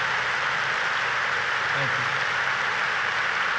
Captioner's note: applause